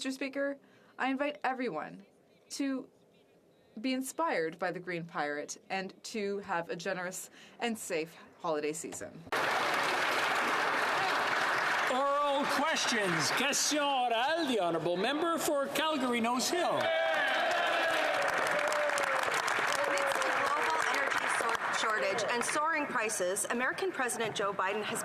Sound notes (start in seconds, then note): 13.0 some Applause; 17.2 speaking French; 21.8 some Applause